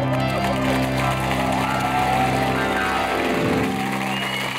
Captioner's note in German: Applaus